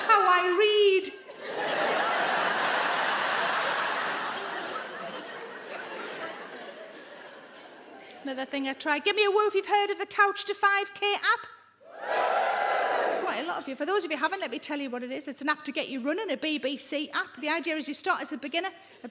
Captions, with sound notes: That's how I read. (adience laughing) Another thing I tried. Give me a woo if you've heard of the Couch to 5K app. (audience woos) Quite a lot of you. For those of you haven't, let me tell you what it is. It's an app to get you running, a BBC app. The idea is you start as a beginner.